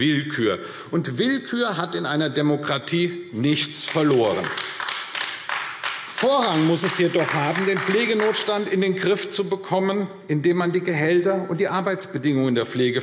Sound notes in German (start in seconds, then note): 3.8 Beifall AfD